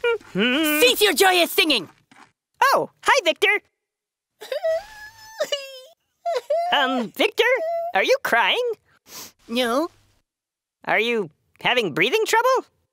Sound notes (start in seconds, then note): 4.4 crying sounds